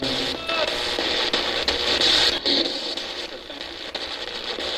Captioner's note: static buzzing